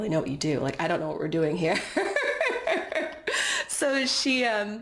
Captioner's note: laughs